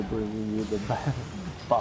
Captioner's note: laughter